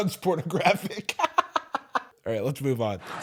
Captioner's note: laughs